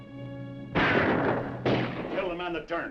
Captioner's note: dramatic music; guns firing